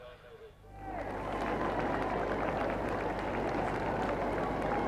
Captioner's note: crowds applauding